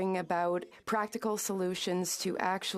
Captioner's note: speaking French